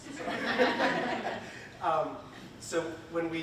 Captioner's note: audience laughing; laughs